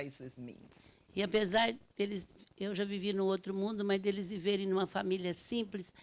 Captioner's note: speaking Portuguese